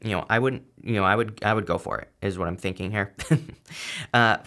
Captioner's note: laughs